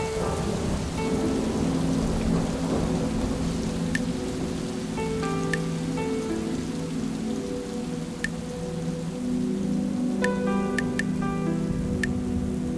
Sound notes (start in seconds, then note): 0.2 piano playing; 5.8 blood dripping